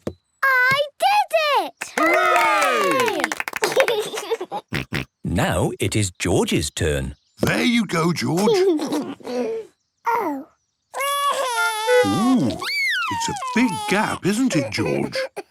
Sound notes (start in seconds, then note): 4.3 laughs; 10.9 cries